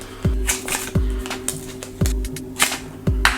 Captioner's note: snaps